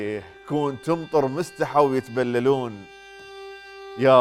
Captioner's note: poetic manner